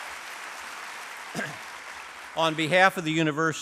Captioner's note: applause